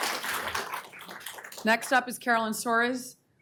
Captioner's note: applause